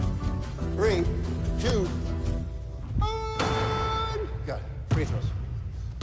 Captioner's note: screams